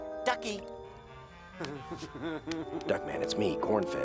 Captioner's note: grunting feebly